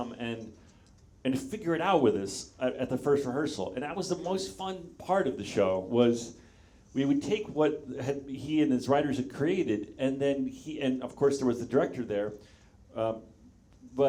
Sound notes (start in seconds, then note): none